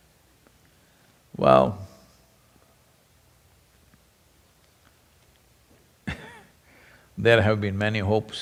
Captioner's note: laughs